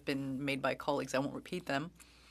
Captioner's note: speaking French